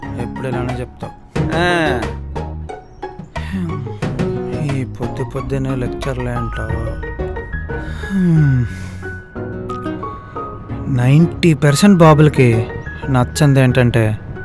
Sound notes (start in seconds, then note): 1.4 groans in irritation; 3.3 Nandan sighs; 7.8 Nandan yawning